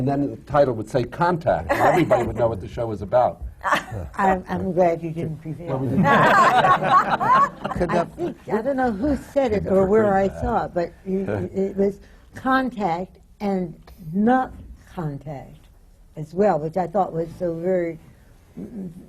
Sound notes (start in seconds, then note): 3.6 laughs; 5.8 laughter